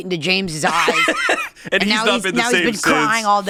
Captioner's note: laughs